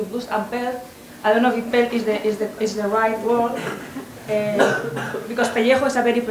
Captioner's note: spanish